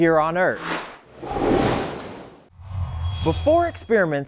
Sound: sound Effects

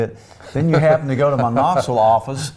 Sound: laughs

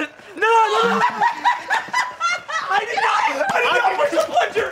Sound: laughs; screaming and laughing

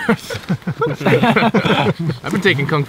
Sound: all laugh

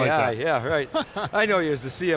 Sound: laughs

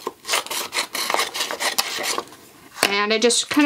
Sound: scissors cutting

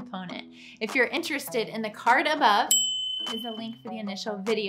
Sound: bell chimes

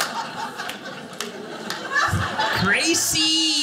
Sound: audience laughing

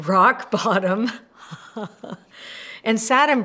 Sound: laughs

